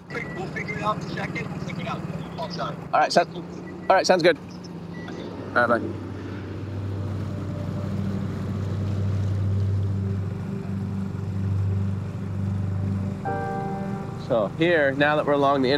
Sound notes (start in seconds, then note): 7.2 boat engine hums; 7.2 water rushing